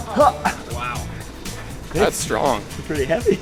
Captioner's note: voiceover